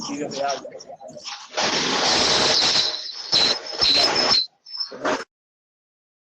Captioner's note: background or connectivity noise